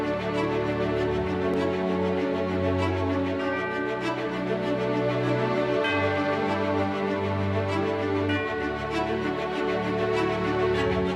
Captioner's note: bells tolling